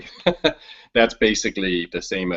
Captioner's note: chuckles